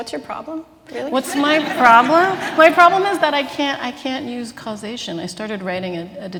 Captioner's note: laughter